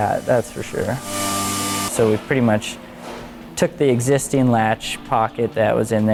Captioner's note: grinding sounds